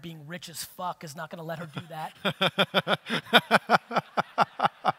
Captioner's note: audience laughter